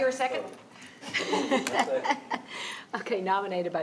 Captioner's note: laughing